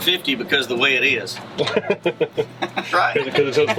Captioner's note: laughter